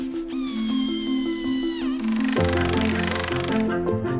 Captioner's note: tools whirring